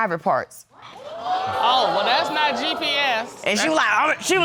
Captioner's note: audience gasps